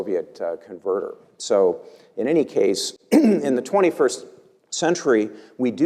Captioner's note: cough